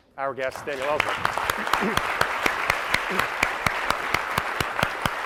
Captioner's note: applause